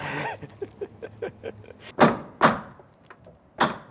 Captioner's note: laughing